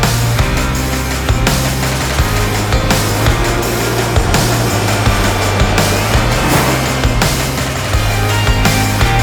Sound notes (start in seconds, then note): 3.5 sounds of jet taking off